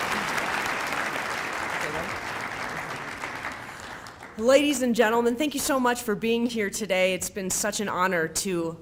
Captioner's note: applause